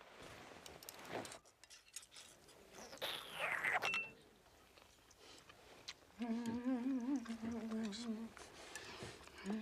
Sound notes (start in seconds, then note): 2.7 slurps; 6.2 humming